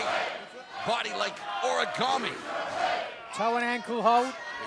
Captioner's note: crowd cheering